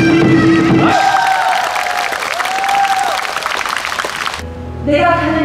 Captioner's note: applause